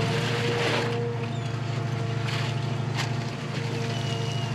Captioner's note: birds chirping; water splashing; cranes whining